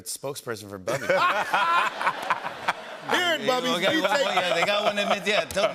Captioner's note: laughter